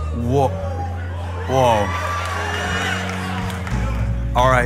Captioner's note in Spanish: Aplausos